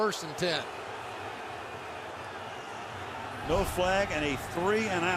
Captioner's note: booing